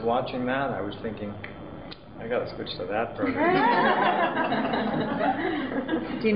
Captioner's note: laughter